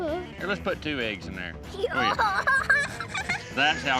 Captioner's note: laughs excitedly